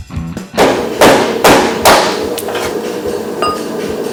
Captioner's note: pounding